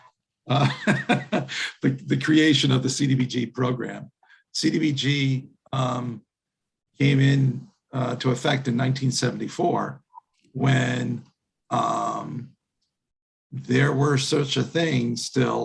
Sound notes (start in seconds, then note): 0.5 laughing